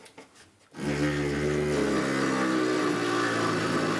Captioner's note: dull sawing noise